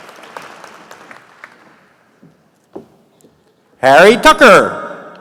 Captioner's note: applause